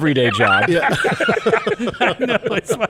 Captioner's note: people laughing